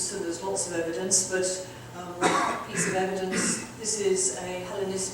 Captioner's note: audience member coughing